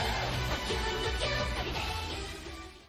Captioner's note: sound effects